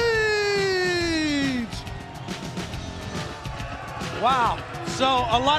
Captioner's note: crowd cheering